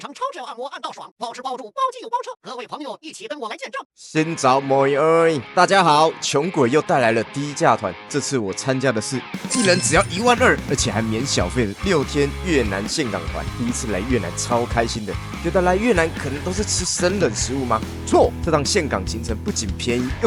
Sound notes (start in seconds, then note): 4.8 Vietnamese